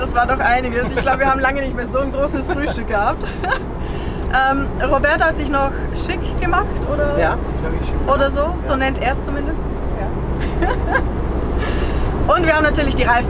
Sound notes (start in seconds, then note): 10.4 laughing